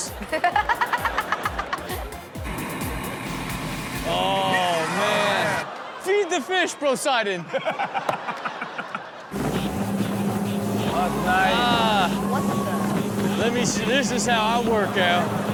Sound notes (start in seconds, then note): 0.0 laughs; 7.2 laughing